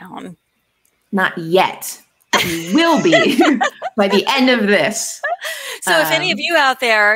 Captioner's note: laughs